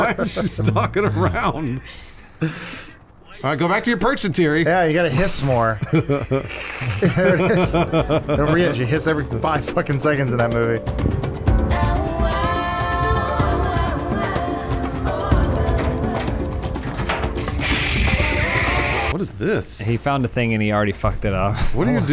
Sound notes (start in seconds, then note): 5.7 more genuine laughter; 6.5 hisses; 10.7 beautifully intense music plays; 17.5 hisses